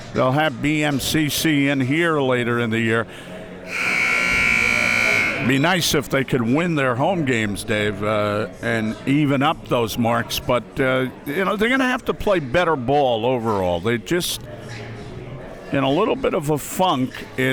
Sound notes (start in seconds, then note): 3.6 siren blaring